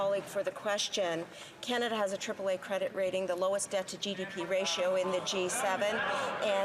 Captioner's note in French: voix de l'interprète